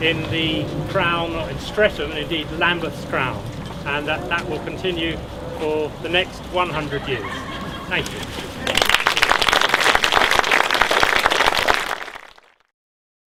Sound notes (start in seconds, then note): 8.6 applause